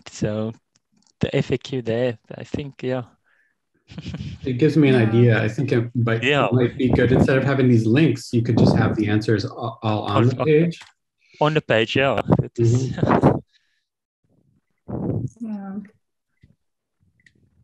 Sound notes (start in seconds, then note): 3.9 snickering